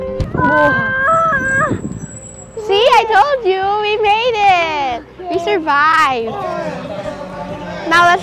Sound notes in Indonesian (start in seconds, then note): 0.4 Teriak